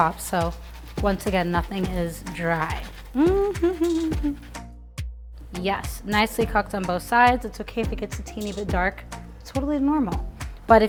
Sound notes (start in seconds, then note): 3.0 humming cheerfully; 4.7 light upbeat music